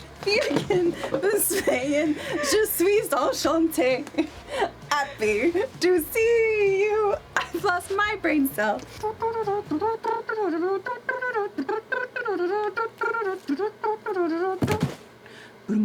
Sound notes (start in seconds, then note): 0.1 singing , badly; 9.5 humming